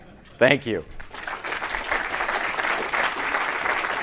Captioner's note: applause